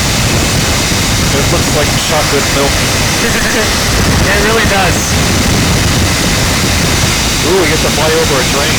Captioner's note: laugh